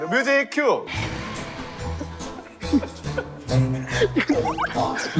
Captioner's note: slowly revving his engine